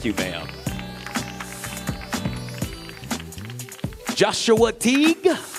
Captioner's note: audience cheering; audience applauding